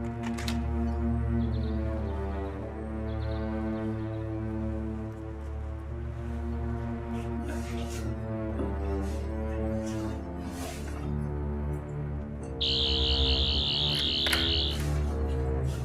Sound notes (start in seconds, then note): 12.6 buzzing; 13.9 door unlocking sound effect